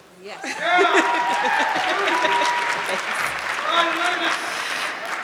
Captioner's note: audience clapping